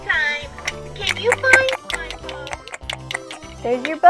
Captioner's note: lip smacking noises